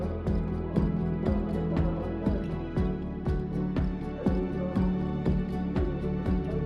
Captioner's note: gentle music continues; people chanting